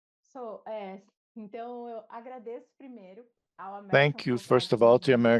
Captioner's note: speaks in Portuguese